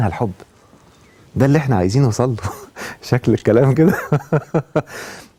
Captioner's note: laughs!